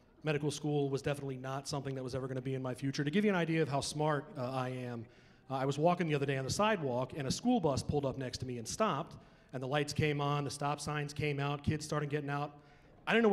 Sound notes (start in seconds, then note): none